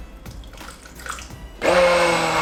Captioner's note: water trickling; blender whirring